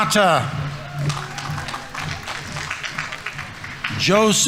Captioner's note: audience applauding